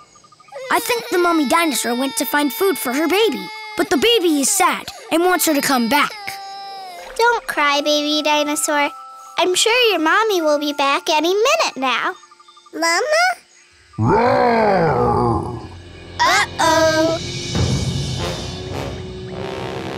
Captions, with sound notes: I think the mommy dinosaur went to find food for her baby. But the baby is sad and wants her to come back. Don't cry, baby dinosaur. I'm sure your mommy will be back any minute now. Mama? [roaring] Uh oh!